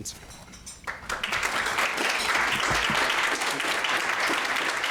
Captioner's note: applause